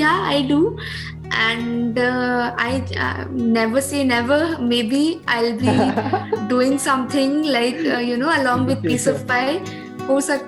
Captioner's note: laughs